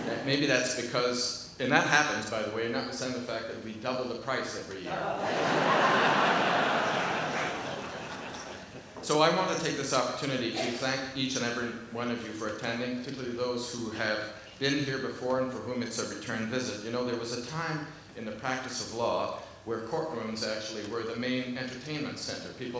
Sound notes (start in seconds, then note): 4.9 audience laughs